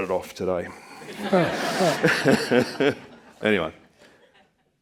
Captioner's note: all laughing